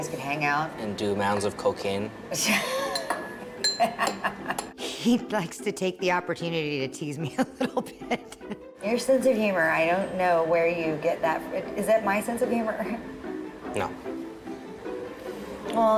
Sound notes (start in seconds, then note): 3.6 laughs